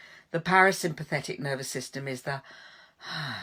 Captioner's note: exhaling